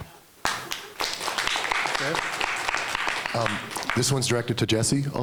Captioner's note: clapping